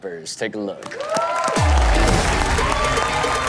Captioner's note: audience cheering and applauding; upbeat music